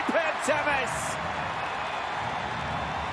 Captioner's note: crowd cheers